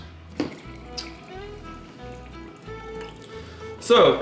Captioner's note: liquid pouring